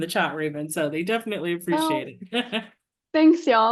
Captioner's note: chuckles